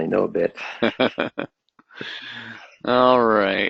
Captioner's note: laughs